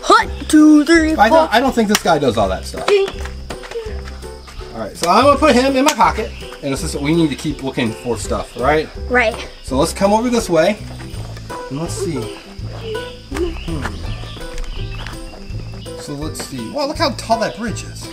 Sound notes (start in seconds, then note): 2.5 claps rhythmically; 12.7 hums